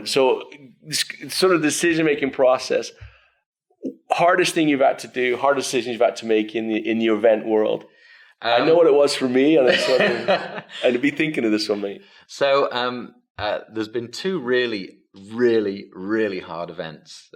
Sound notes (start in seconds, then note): 9.6 laughs